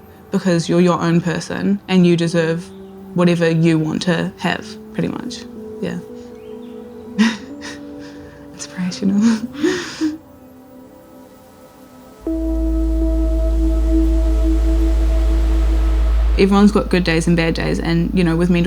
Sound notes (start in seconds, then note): 6.3 birds chirping; 7.2 chuckles